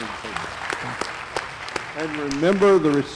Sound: applause

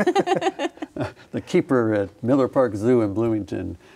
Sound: everyone laughs

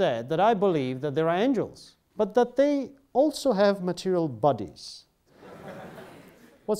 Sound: students laugh

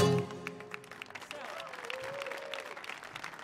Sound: applause

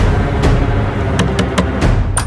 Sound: door knocks

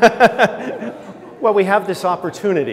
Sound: laughter

